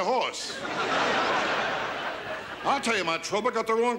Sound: audience laughs

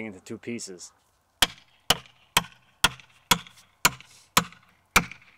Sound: hammer clangouring

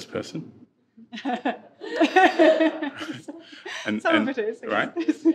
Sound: participants laughing

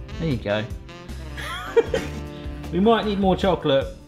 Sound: laughing

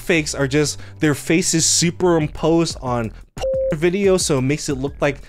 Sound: beep

